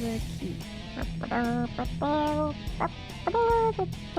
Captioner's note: humming